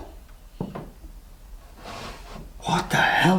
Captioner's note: soft banging sound